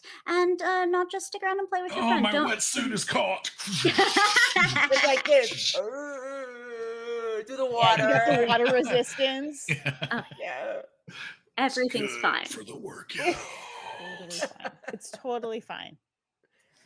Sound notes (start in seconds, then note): 4.1 laughing; 5.8 grunting